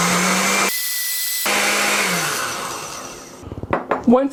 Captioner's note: blender sound